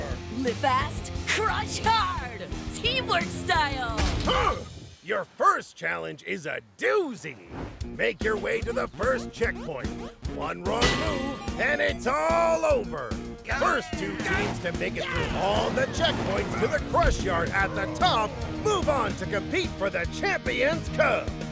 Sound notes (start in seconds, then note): 4.2 both grunting